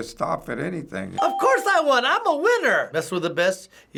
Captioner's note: ding